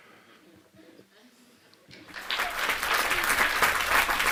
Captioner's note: applause